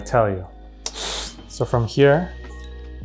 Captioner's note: hissing